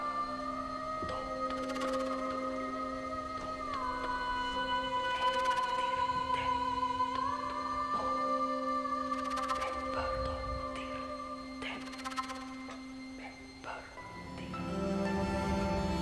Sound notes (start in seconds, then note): 2.4 soft suspenseful music; 6.6 whispering continues